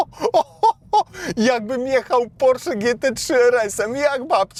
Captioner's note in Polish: śmiech